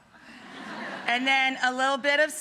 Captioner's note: audience laughs